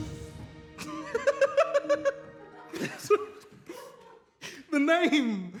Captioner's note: tomi laughs